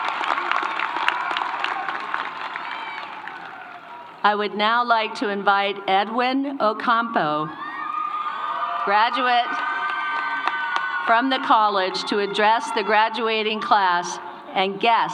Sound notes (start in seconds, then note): 8.2 applause